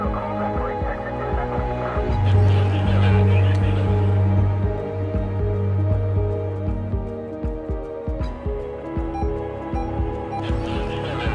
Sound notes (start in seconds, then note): 0.1 ominous music; 2.3 officers chattering